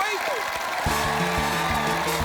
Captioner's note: cheering, applause